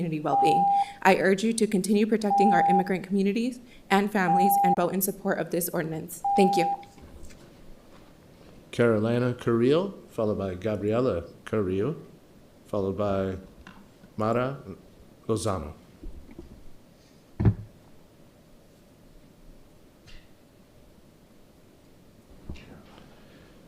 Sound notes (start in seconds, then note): 6.2 horn beeping